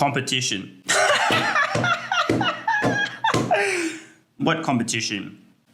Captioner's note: hysterical laughter